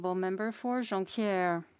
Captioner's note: speaking French